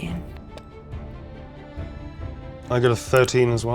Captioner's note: die rattling